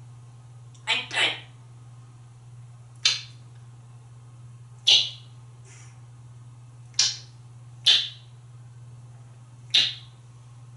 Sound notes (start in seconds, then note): 4.7 giving smooches